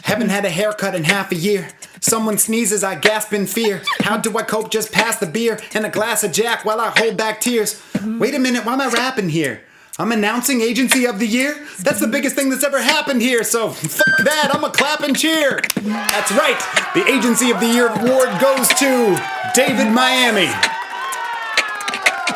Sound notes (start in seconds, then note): 14.0 beep; 15.8 comic cheering